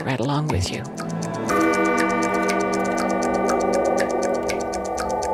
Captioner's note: clock chiming